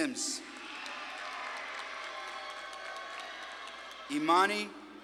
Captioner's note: audience claps and cheers